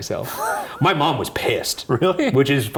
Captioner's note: chuckling